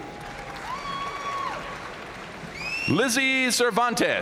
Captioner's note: audience cheering and applauding